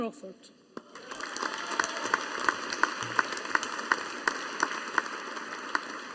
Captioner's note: audience applauding